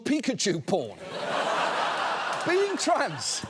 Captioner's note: studio audience laughs